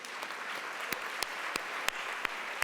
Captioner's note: applause